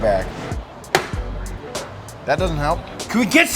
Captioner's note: popping noise